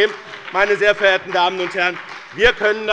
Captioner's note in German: Beifall bei dem BÜNDNIS 90/DIE GRÜNEN und der CDU